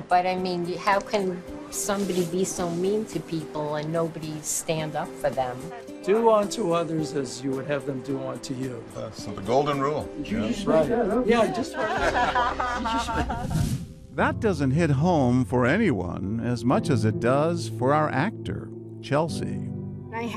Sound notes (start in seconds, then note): 12.9 crowd laughing